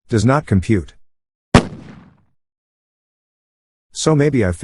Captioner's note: explosion sound